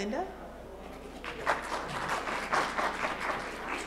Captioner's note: applause